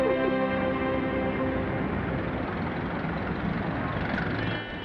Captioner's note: engines rumbling